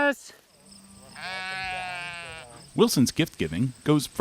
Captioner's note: sheep bleating